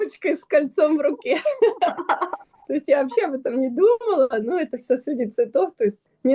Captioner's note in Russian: смех